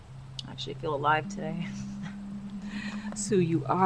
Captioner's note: chuckles